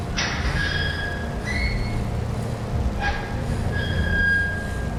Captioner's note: el metal se queja